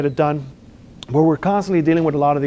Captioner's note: lip smacks